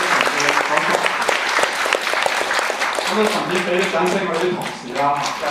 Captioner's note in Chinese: 掌聲